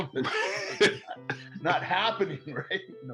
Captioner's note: laughing